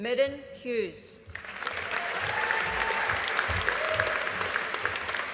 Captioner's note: audience applauding